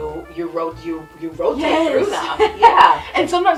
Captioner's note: laughs